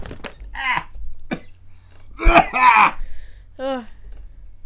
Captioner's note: coughing